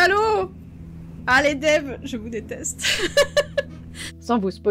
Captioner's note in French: rires